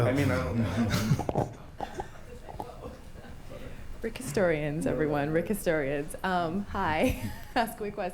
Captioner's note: laughs